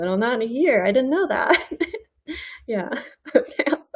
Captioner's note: laughs